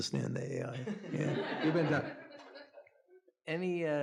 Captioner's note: audience laughing